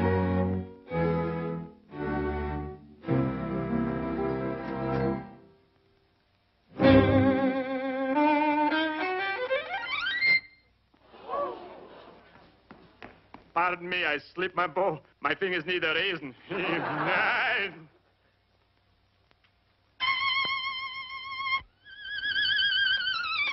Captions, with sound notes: (dramatic orchestral music) Pardon me, I slipped my bow. My fingers need a rosin. (laughing) (intense violin music)